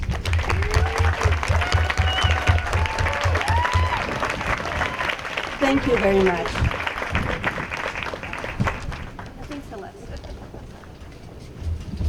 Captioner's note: applause